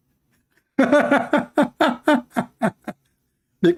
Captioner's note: Ketawa